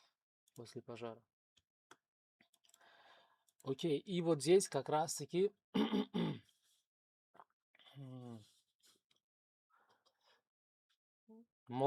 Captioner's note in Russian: кашель; откашливается